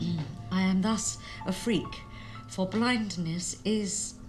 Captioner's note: none